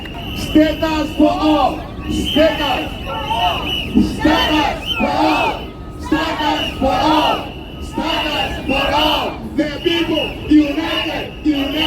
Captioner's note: chant